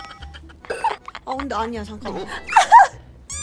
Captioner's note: laughing till death